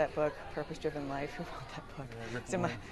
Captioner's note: chuckles